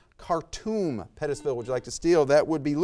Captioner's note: buzzer buzzes